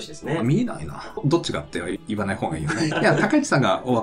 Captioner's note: laughs